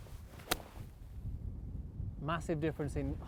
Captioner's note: golf shot thwacks